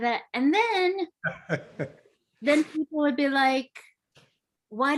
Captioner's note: laughs